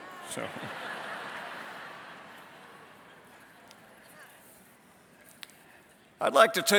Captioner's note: laughter